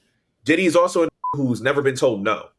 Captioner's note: beep